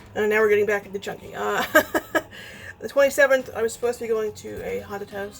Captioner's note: laughs